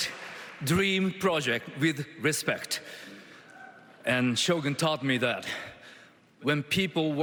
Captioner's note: applause